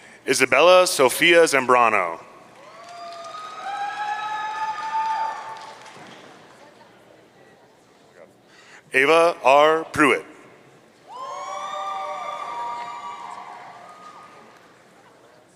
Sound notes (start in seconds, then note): 2.6 audience cheering; 11.1 audience cheering